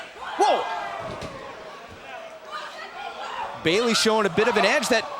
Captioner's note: crowd cheering